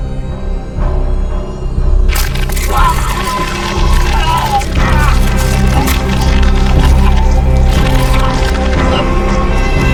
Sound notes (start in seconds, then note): 2.1 flesh squelching; 2.2 Torrez grunting